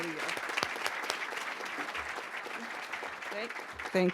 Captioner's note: applause